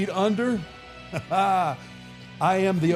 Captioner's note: laughing